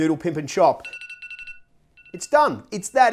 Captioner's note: timer goes off